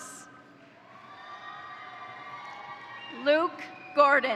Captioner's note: crowd cheering; crowd applauding